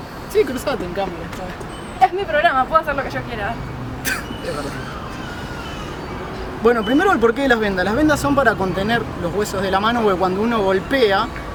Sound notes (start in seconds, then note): 4.0 laughs